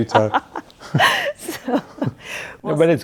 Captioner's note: laughing